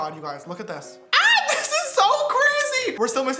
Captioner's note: squeals